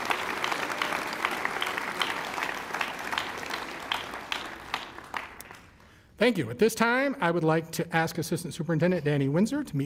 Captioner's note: applause